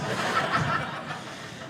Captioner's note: audience laughing